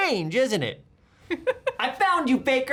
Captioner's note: laughing